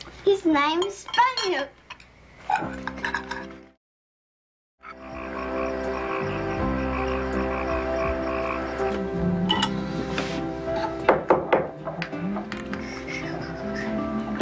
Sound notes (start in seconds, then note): 2.9 gentle music; 4.8 frogs croaking; 11.0 taps pipe